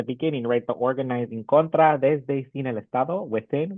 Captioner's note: speaks in Spanish